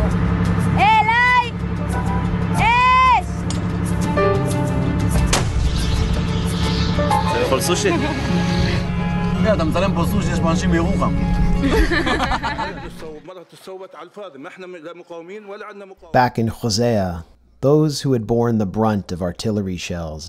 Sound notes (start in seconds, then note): 5.2 explosion; 11.6 laughter